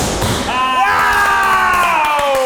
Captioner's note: cheering